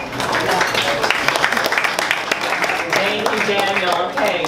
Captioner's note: audience applauding